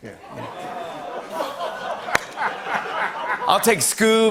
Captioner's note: laughter and applause